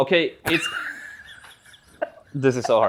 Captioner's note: laughs